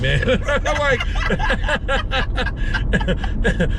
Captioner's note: laughter